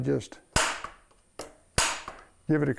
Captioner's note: metal-on-metal banging